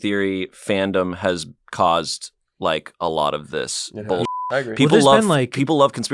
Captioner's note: beep